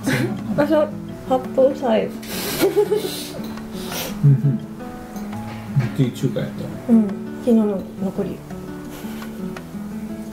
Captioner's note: laughs